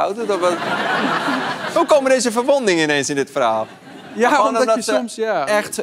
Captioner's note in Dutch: gelach